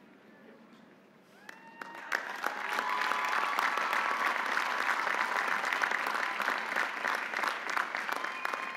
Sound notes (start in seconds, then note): 3.1 audience applauding; 3.1 audience cheering